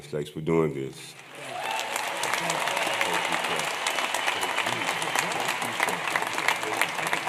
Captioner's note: applause